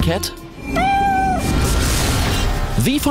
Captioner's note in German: Katze miaut